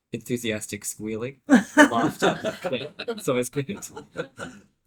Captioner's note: laughter